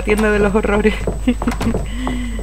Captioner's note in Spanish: risas